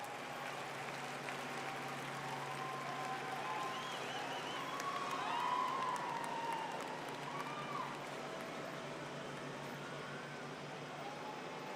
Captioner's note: cheers and applause